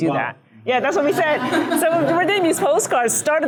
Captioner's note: laughing